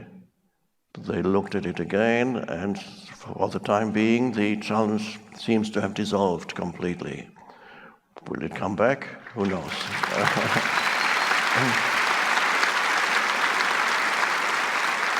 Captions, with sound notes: they looked at it again, and for the time being, the challenge seems to have dissolved completely. Will it come back? Who knows? (crowd applauds)